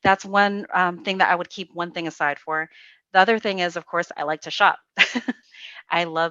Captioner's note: giggles